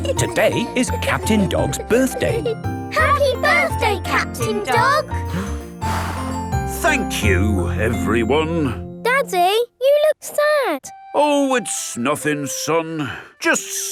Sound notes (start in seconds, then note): 5.2 blows